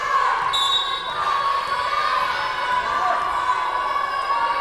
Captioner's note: whistle blowing